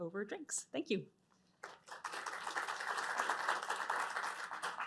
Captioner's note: applause